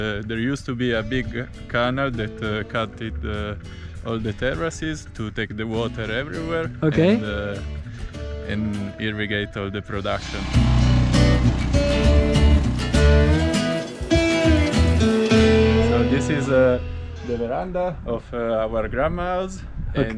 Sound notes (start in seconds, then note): 10.2 machinery roaring; 12.7 upbeat music